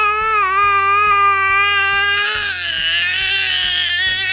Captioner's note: yelling